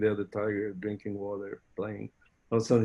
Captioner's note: chuckling